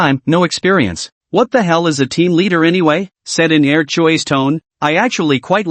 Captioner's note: said in Er Chui's tone